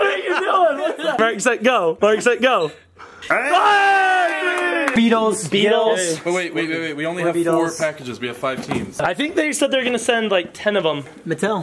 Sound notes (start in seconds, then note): 3.3 yelling